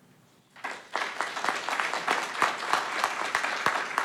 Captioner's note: audience clapping